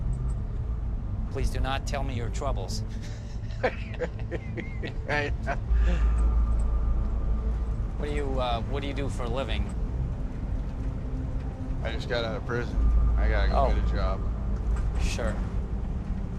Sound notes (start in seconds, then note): 3.0 both laughing